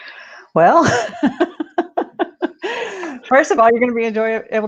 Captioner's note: laughs